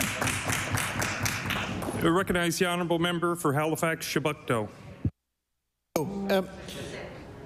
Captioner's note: applause